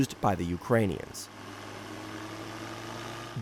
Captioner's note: propeller whirring